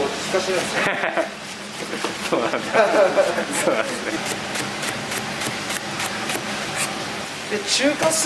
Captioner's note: laughs